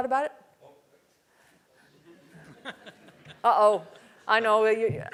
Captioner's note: laugh